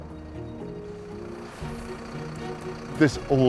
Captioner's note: engine idling